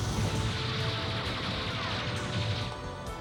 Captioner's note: gunshots